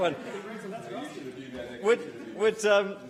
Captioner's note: laughter